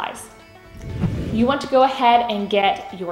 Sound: swooshing

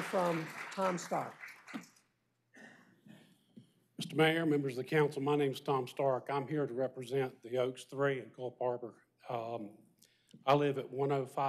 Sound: applause

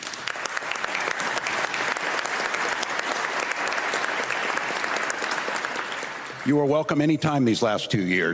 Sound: applause

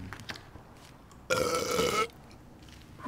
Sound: belch

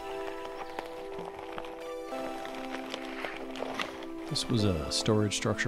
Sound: footsteps crunching

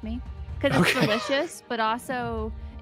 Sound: laughs

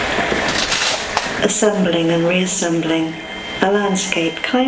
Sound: voiceover

